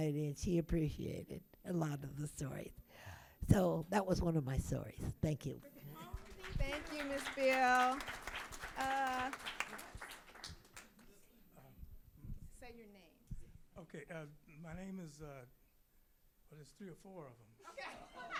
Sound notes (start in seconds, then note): 6.0 audience applauding; 17.8 audience laughing